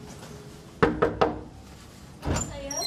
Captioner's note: knocking